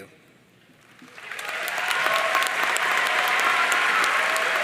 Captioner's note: audience cheering